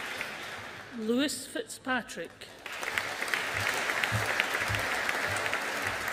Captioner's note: audience applauding